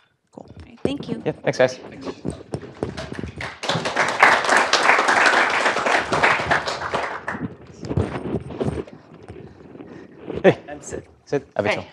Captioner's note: applause